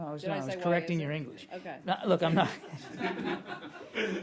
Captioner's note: laughter